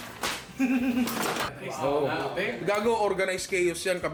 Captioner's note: chuckles